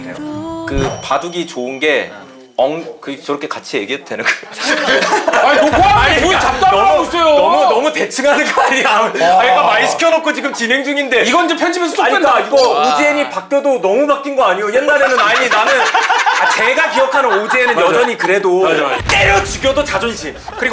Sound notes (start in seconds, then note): 14.8 hahahahahahaha